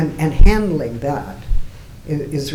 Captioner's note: none